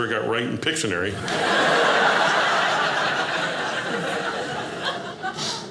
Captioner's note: audience laughing